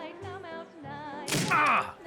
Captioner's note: thud; kicking